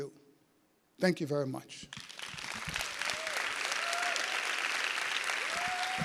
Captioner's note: audience applauding